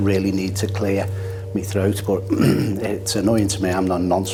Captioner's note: clears throat